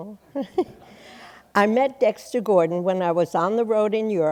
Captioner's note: chuckles